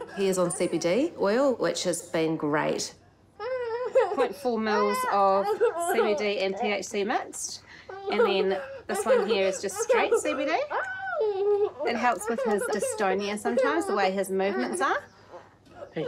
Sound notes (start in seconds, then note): 3.3 cries